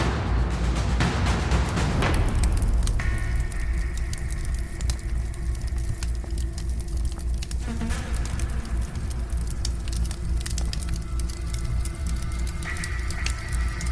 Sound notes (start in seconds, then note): 3.1 fire crackling